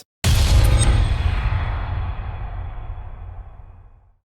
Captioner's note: impact